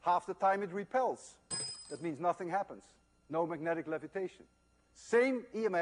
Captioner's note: metallic clanking sound